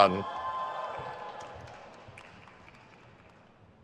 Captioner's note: crowd cheers